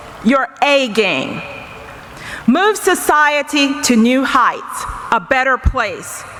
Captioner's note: none